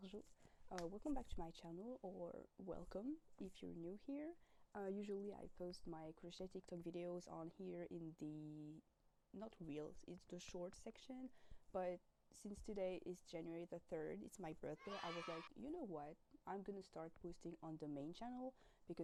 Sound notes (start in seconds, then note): 14.8 cheers